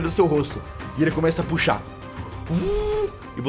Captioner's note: vuuu